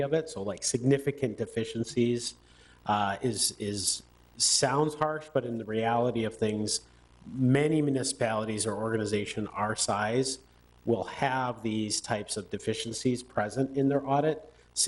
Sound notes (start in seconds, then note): none